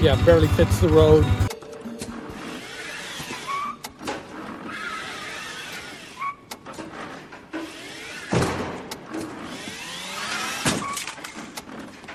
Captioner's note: cart tires and crashing sounds